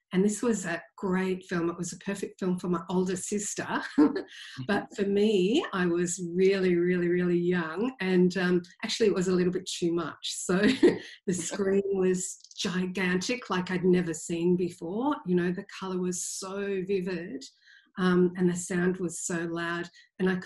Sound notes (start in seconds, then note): 3.9 giggles; 10.6 laughs